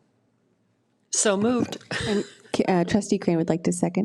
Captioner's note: laughs